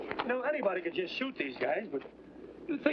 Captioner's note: none